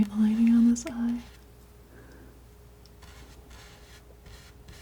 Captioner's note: scratching